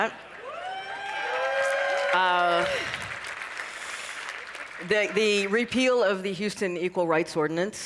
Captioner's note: cheering and applause